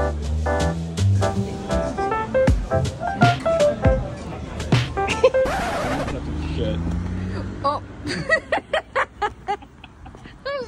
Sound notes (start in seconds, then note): 1.1 warm restaurant chattering in the background; 8.0 laughing